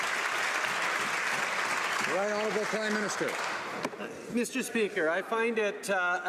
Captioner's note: some Applause